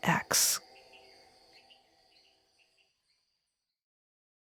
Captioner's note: insects chittering